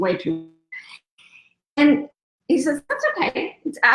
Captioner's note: radio interference drowns out speaker